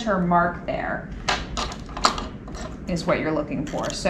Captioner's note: sewing machine clattering